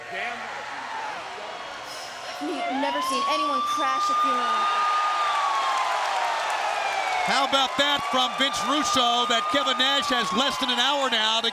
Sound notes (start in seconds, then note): 4.3 police sirens wailing; 5.5 crowd cheering; 5.5 siren wailing